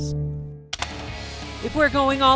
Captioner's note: keyboard clack